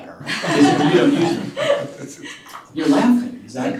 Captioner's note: laughter